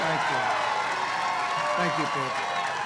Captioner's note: applause